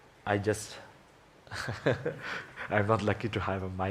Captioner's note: laughs